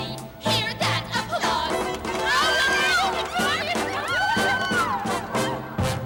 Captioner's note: shrieking